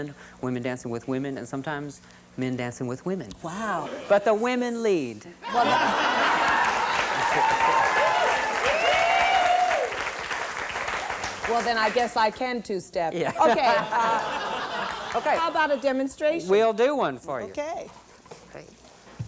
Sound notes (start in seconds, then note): 9.4 laughter, applause; 13.2 laughter